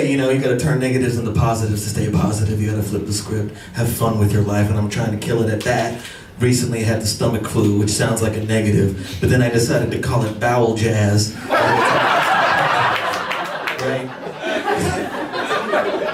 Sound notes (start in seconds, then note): 11.4 laughter